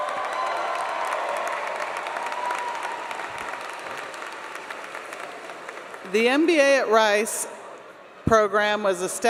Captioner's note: applause